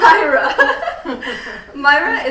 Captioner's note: all laughing